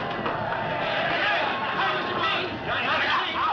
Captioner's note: chattering